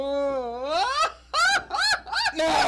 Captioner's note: laughing